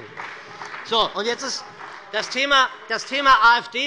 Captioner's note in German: Beifall bei der : Das stimmt doch gar nicht!